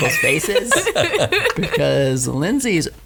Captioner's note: laughs